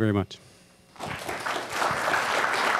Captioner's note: applause